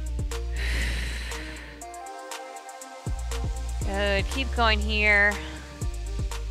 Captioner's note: exhales